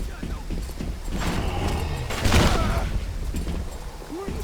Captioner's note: thunder